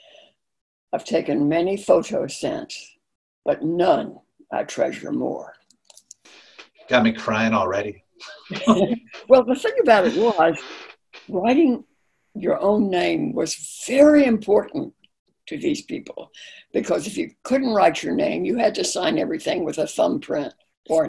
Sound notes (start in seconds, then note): 9.5 laughing